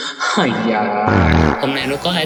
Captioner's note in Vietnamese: Thở dài